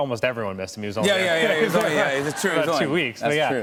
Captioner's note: laughter